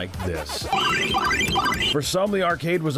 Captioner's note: game chiming